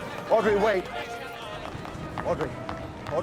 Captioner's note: reporters clamoring